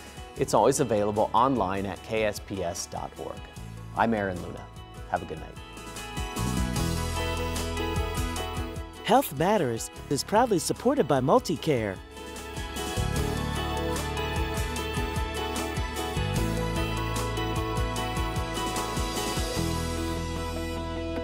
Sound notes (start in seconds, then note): 5.5 upbeat music; 9.0 voiceover; 12.2 upbeat music